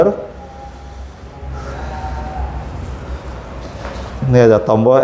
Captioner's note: distant chattering